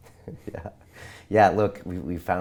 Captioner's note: laughs